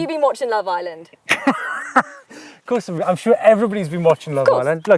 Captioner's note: laughs